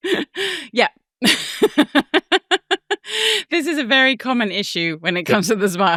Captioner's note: chuckling